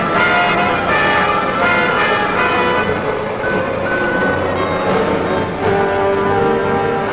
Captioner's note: dramatic music; tank engines roaring